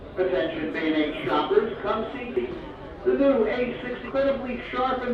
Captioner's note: intercom announcement